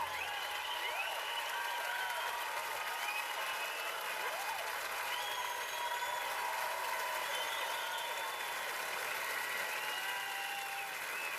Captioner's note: cheers and applause